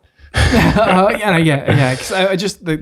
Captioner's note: all chuckles